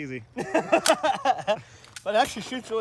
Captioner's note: laughing